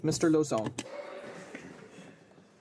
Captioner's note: speaking in French